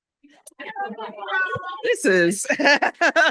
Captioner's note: laughter